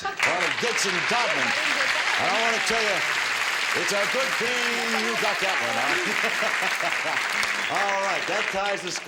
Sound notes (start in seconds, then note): 2.9 audience applause; 7.6 laughing